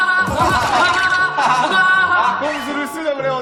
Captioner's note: hahahaha